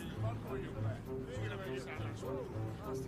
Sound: indistinct chatter

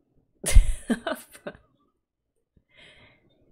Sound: laughs

